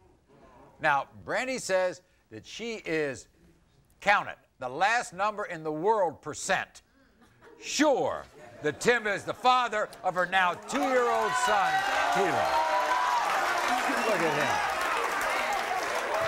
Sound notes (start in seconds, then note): 13.0 crowd cheering